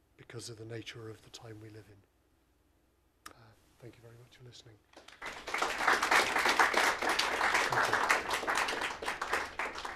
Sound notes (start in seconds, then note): 4.9 applause